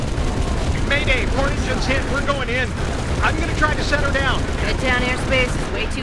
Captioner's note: radio